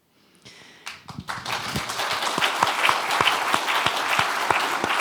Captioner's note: applause